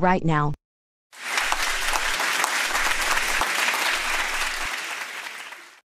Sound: studio audience cheers

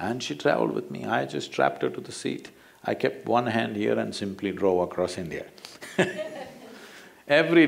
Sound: laughs

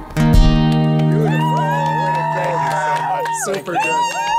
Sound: cheers and applause

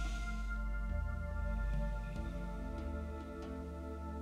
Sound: inhaling deeply

